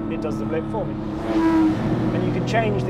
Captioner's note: car engine revving